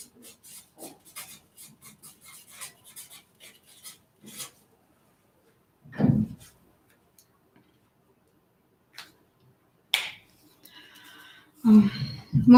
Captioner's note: sigh